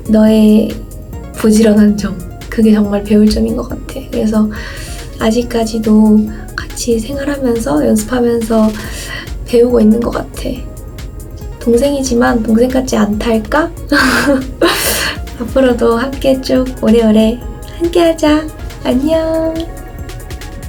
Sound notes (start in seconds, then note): 14.0 hehehe